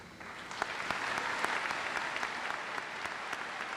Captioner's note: audience applauds